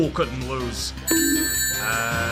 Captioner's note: bonk